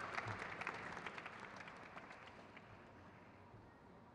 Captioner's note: crowd cheers